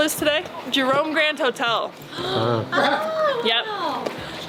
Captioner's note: people gasping